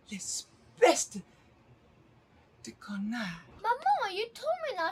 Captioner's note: Pauline speaking in French